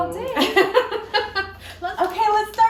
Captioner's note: laughs